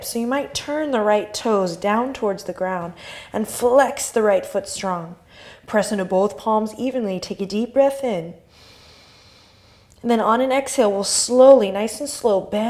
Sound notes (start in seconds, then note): 8.5 inhale